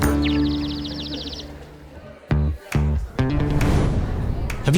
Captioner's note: chick chirping